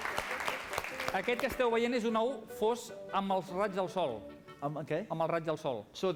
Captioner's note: non-english speech